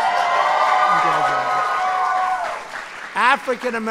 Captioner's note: applause